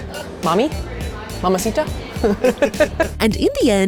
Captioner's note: laughs